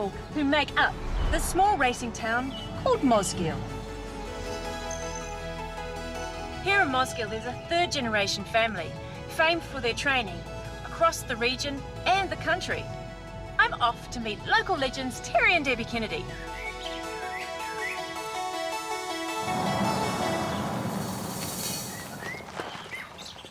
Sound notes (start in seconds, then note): 16.3 gentle birdsong